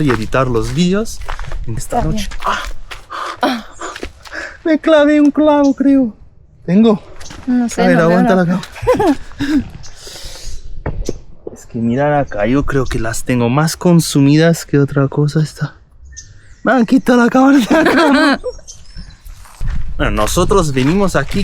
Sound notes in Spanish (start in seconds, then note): 17.5 risas